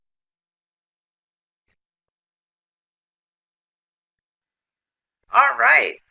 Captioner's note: silence